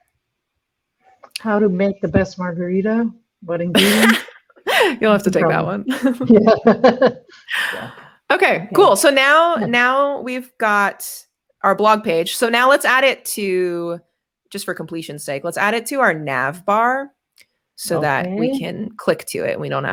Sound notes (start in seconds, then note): 3.8 laughs